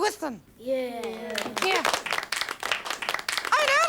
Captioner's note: applause